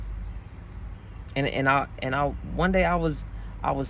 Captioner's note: sigh